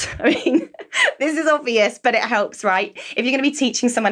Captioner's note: laughs